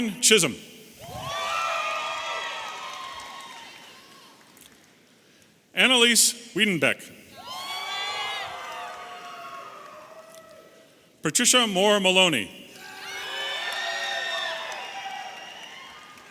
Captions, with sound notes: Katherine Chism. (audience cheering) Analiese Wiedenbeck. (audience cheering) Patricia Mohr Maloney. (audience cheering)